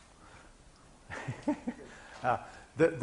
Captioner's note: laughing